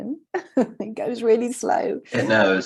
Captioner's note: chuckling